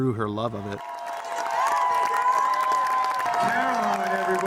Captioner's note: cheers and applause